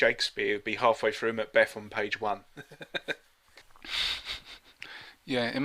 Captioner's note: laughter